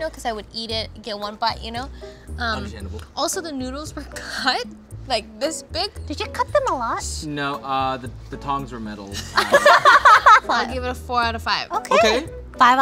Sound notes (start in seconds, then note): 9.3 laughing